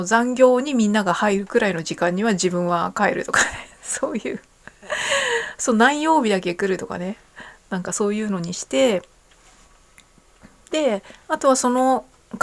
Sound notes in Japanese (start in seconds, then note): 4.8 笑い; 4.8 息をのむ音